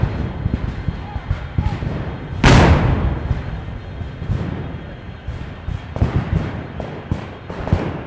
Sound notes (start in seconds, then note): 2.4 cannons fire